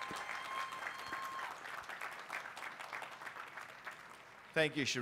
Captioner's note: applause